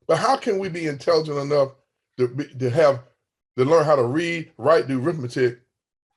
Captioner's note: none